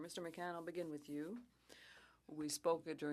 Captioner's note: speaking French